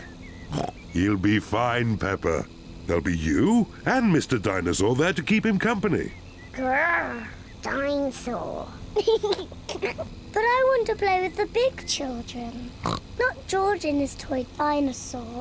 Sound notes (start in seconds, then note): 0.4 snorts; 8.9 giggles; 12.7 snorts